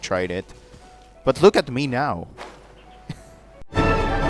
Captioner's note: quiet laugh